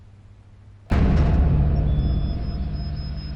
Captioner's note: power comes on